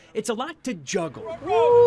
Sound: sounds of football practice

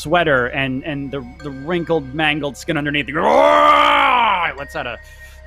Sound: growls

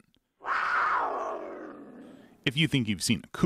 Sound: mountain lion growls loudly

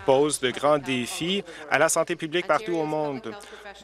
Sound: applause

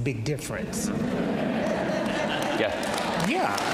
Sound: audience laughs

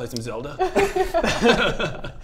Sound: keen laughter

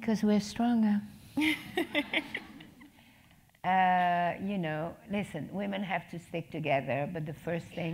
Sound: laugh

